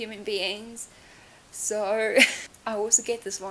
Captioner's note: laughs